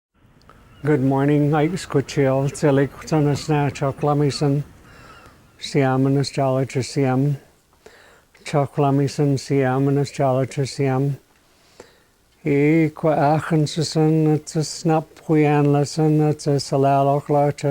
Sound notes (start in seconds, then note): 1.8 speaking Xwlemi Chosen; 5.2 speaking Native Xwlemi Chosen Language